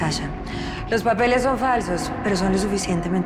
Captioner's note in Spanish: En ruso